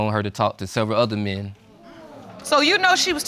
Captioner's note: audience exclaims